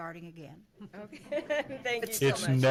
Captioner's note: laughing